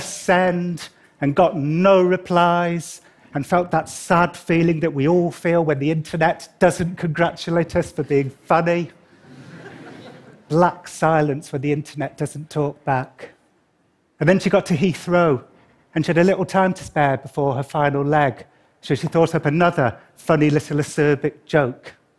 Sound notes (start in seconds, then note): 9.2 laughter